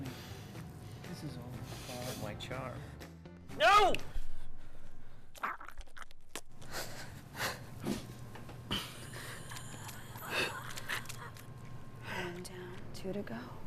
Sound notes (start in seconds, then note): 4.2 snapping; 5.3 squishing; 6.5 gasping; 9.4 groaning